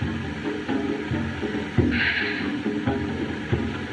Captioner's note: sighs